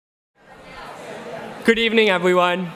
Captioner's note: audience chattering